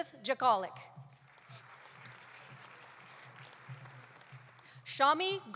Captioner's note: audience applauding